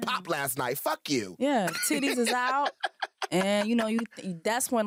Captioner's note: laughter